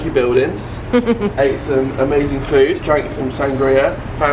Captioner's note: chuckling